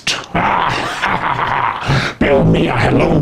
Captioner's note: anonymous Caller evil laughing